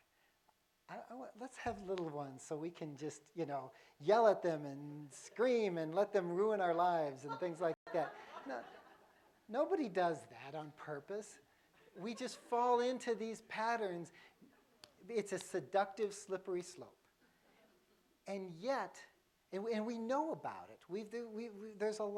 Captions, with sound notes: have little ones so we can just yell at them and scream and let them ruin our lives' and things like that (laughter) nobody does that on purpose. We just fall into these patterns its a seductive slippery slope and yet and we know about it we we there's a lot of research